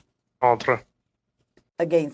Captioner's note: speaking French